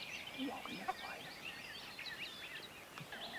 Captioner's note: turkey call yelping; hunters whispering; birds tweeting